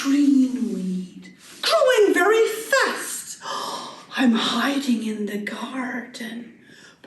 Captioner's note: gasp